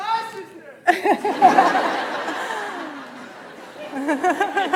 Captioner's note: audience laughs